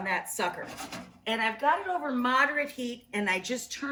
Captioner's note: pot scrapes